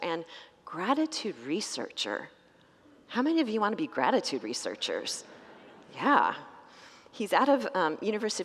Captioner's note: congregants laugh